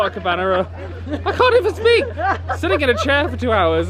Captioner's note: laughing